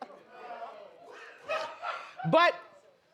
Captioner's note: laughs; audience laughs